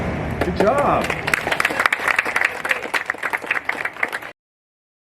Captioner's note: applause